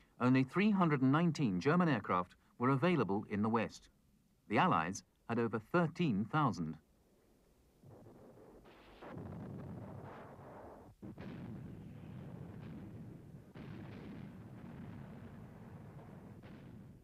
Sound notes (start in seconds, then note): 7.6 weapons firing